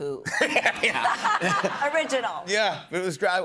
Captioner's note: laughter